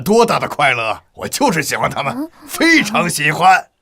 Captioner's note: sighs